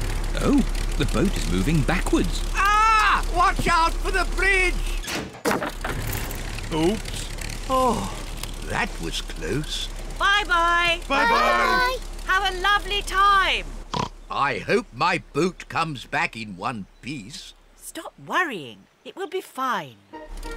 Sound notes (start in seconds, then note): 5.2 crunching; 13.9 oinks